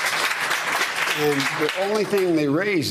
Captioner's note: applause